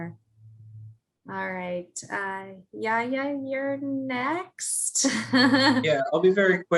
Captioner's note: laugh